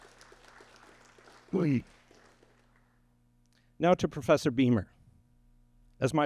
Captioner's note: applause